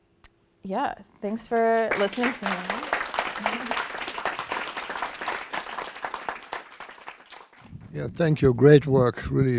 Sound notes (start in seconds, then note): 3.2 applause